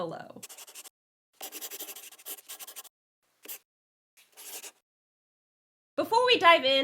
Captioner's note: the sound of a pen scratching